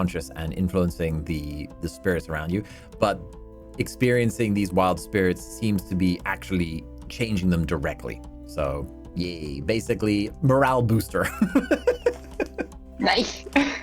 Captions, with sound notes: and influencing the spirits around you, but experiencing these wild spirits seems to be actually changing them directly. So, yeah, basically morale booster. [LAUGHTER] Nice.